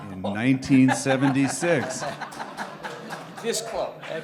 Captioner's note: laughter